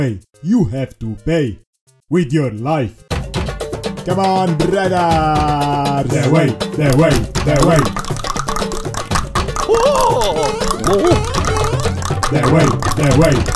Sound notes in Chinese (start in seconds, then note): 2.8 召喚bgm再次響起; 11.8 大量彈舌